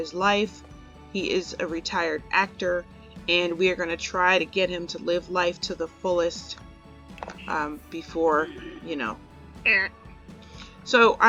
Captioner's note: audible death sound